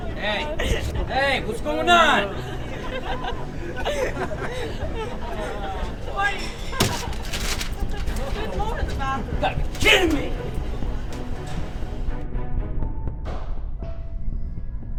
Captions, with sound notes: Hey, hey, what's going on? (laughing) - There's more in the bathroom. - You gotta be kidding me! (intense dramatic music)